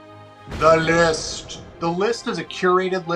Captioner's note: voice booming